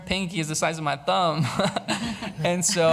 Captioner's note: laughs